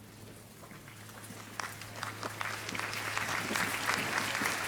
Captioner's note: applause